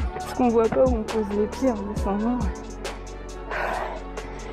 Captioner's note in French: souffle et souffle encore